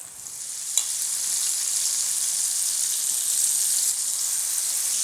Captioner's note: oil sizzling